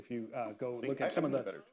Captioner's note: laughs